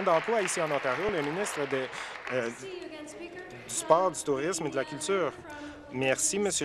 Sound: applause

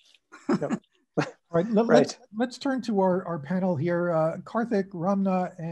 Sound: laugh

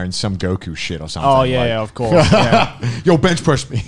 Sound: laughs

